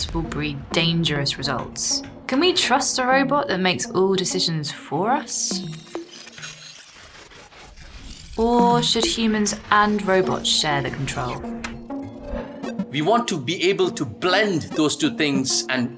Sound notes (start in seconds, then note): 5.5 screen blipping; 5.9 bright music